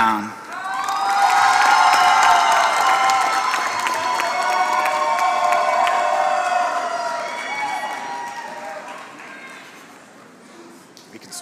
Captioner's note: applause